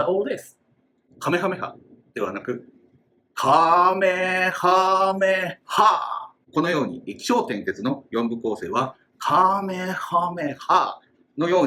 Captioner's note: speaking Japanese